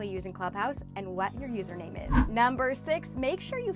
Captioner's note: air whooshes